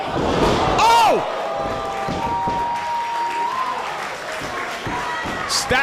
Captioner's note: applause